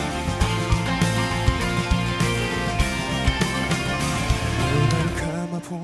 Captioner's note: keyboard sound catches their attention